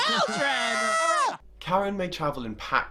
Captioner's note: screaming